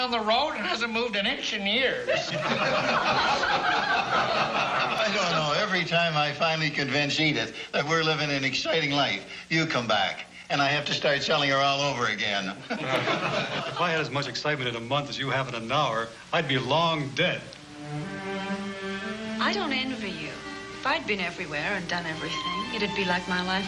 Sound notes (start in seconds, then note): 2.0 all laugh; 12.6 all laugh